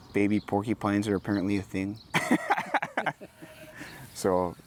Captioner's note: laughs